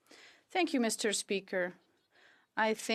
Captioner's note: speaking French